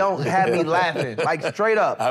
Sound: chuckles

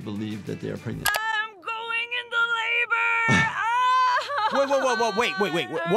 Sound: groans

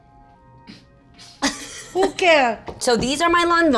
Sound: laughing

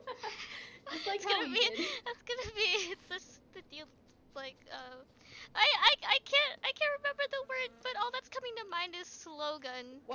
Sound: laugh; laughing

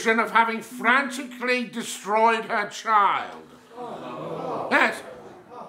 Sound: crowd groans

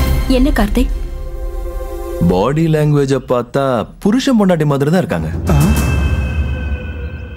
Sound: none

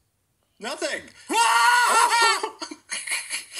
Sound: screams again

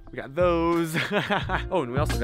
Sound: laughs

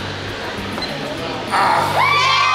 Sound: timer beeps

